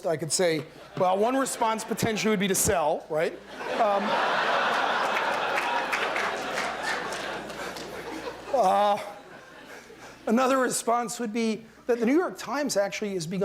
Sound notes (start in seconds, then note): 3.4 laughter